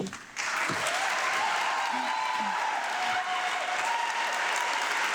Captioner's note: audience applauding